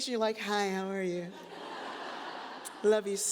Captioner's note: audience chuckles